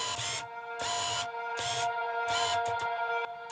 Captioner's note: camera zooming